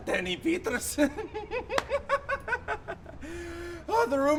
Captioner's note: laughs